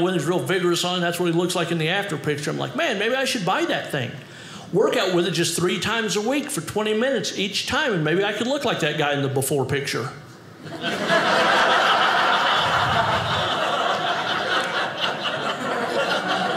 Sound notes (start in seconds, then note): 10.6 audience laughing